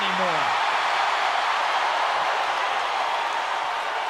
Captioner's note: crowd cheers